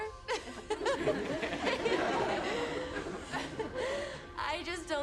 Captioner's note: students laughing; laughs